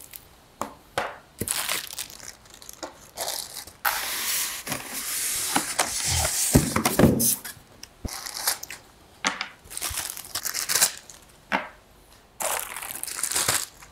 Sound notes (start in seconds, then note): 1.4 crackles